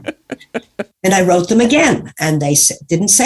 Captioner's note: laughs